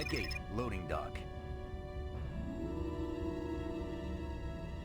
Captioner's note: beeping